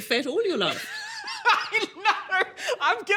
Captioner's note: laughs